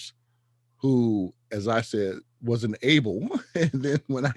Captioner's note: laughs